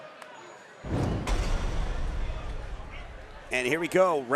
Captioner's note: whoosh sound effect